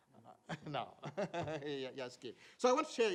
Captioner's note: laughs